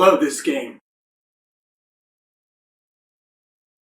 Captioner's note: long intentional silence